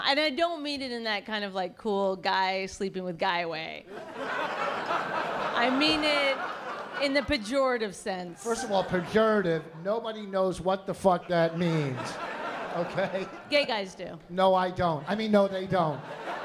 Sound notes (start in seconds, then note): 3.9 laughter; 11.1 laughter